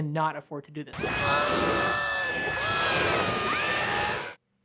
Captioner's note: screaming